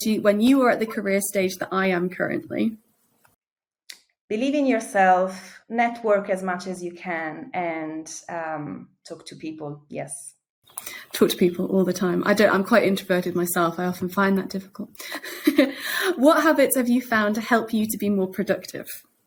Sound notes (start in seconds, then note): 15.0 chuckles